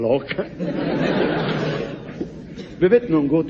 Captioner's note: laughs